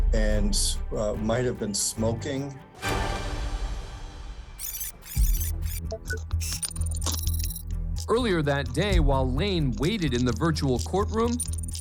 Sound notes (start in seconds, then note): 2.7 foreboding music playing; 4.6 tape rewinding